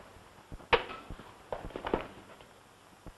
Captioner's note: smack